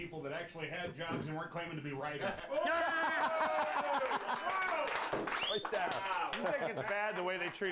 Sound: laughter

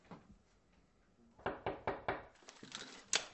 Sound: door knocking

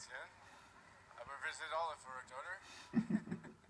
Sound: laughs

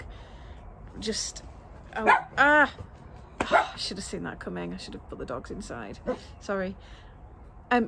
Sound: dog barking

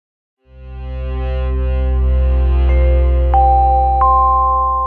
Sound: electronic tones

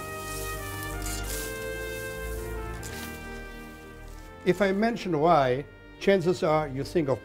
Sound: metal scraping

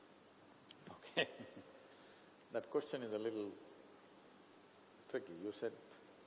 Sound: laughs

